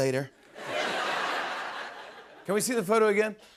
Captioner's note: laughter